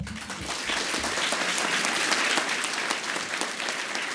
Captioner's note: audience applauds